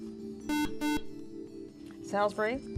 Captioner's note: buzzer